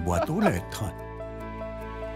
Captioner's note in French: rires